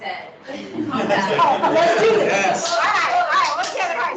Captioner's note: laughing